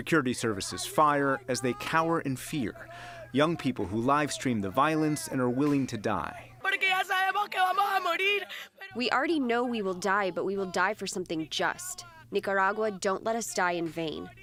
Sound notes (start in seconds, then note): 7.1 through translator